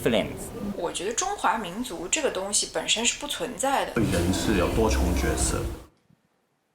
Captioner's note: participant speaking in foreign language